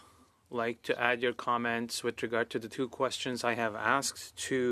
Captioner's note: speaking French